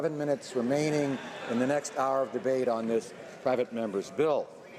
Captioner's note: applause